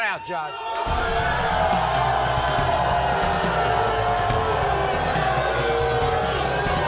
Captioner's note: crowd booing; aggressive percussive music